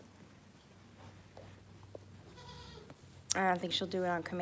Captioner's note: goat bleats